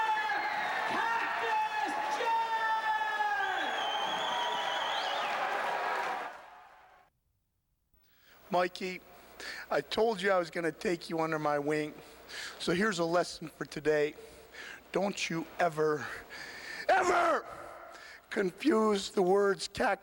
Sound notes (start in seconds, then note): 3.4 crowd cheering